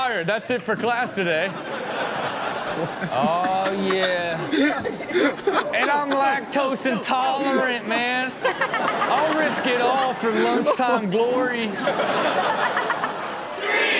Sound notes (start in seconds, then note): 2.0 audience laughing; 8.9 all laughing; 11.9 all laughing